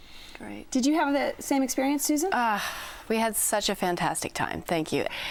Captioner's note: sighs